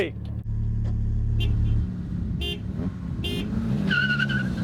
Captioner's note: honking